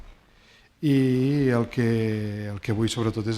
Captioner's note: speaking spanish